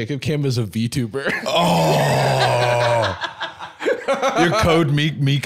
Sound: laughing

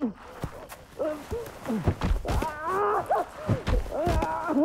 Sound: coughing and gasping; Cam yelling and grunting

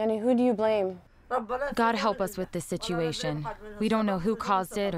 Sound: through translator

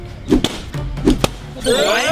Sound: blows

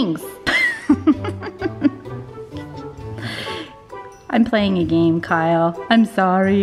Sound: laughs

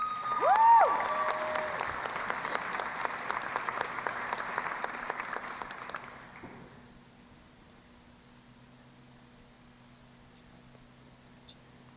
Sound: cheering and Applause

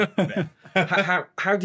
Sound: laughing

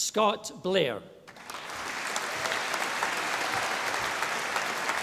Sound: audience applauding

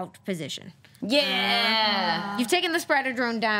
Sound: group cheers

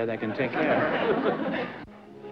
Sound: laughter

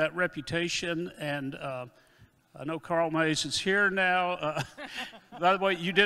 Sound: chuckles

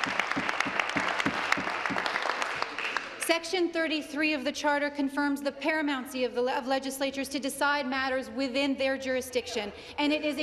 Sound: applause

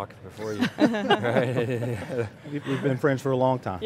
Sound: laughing

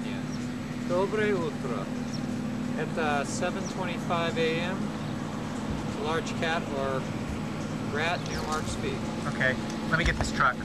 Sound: non-english

